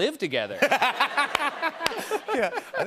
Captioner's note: laughter